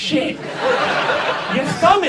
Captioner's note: audience laughs